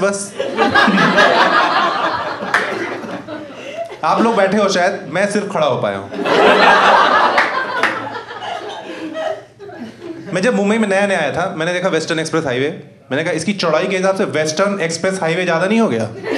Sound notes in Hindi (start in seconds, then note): 0.4 हँसना; 6.2 हँसना